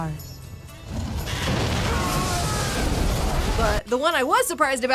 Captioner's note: fire roaring; men screaming